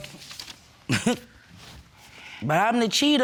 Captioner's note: scoffs